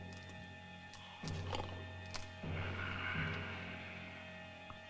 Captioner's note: snoring